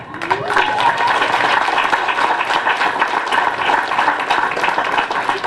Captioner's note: applause